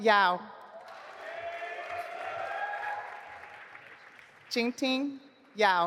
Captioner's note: audience applauding